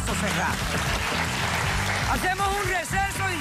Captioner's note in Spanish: aplausos